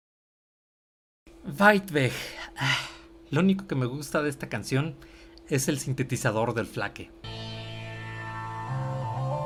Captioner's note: sigh